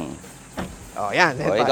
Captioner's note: door thuds